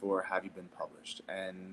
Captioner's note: none